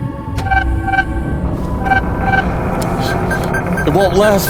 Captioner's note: system pinging